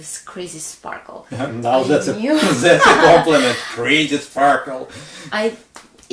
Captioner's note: sarcastically